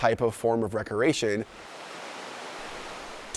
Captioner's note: water rushing